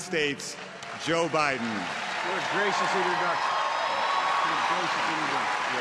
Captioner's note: applause